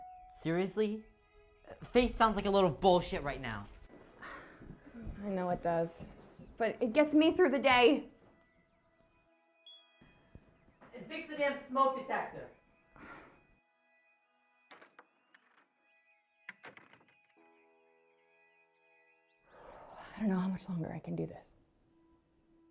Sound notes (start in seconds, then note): 14.7 door opens and slams shut